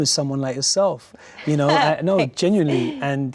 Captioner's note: laughs slightly